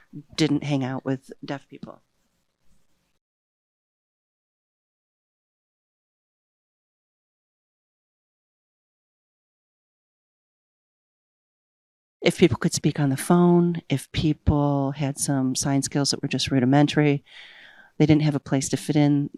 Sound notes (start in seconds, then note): 2.2 no audio